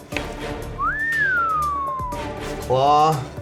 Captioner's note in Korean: 휘파람